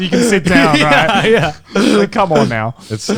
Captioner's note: chuckling